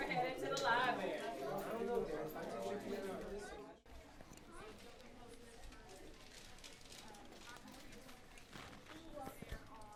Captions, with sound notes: We're headed to the library. (group rustling, murmuring)